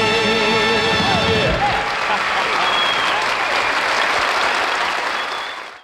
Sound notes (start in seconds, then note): 1.0 audience applauding